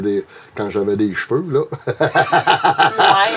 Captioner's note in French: rires